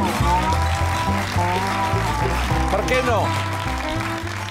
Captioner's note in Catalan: aplaudiments